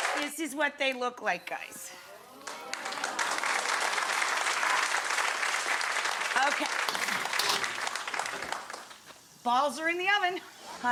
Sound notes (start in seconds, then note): 0.0 audience cheers; 2.4 audience applause